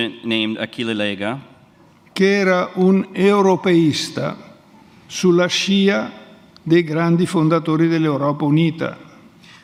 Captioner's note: speaks in Italian